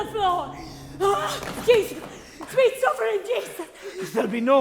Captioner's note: gasps